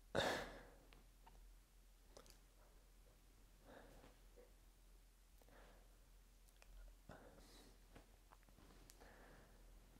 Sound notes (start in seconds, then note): 0.1 breathes out; 2.6 no speech; 3.6 breathes out; 7.1 breathes out; 9.0 breathes in